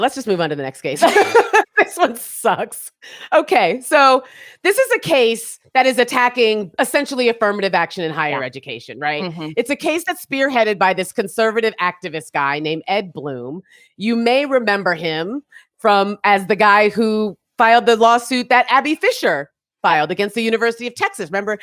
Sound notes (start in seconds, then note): 1.0 laugh; 1.0 laughing